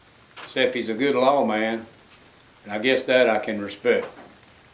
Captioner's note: none